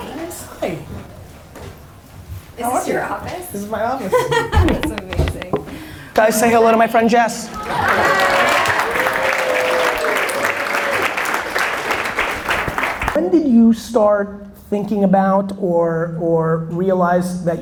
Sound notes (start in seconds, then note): 5.0 laughs; 7.7 audience applause